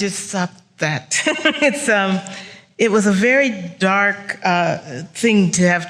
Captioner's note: laughs